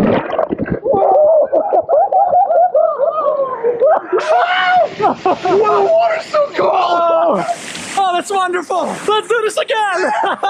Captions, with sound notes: (both laughing) Wow! The water's so cold! Oh, that's wonderful. Let's do this again!